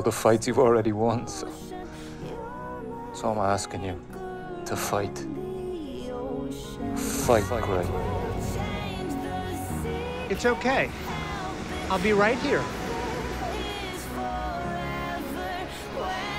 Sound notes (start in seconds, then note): 6.5 echoing